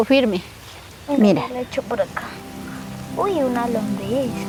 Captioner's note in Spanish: Voz de niño